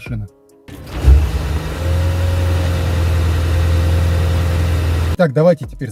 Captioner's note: engine sound